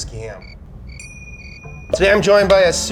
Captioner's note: crickets chirping